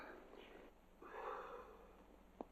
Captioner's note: exhales